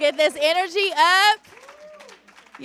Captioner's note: cheers